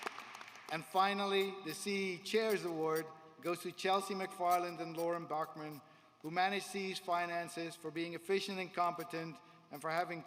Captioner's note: applause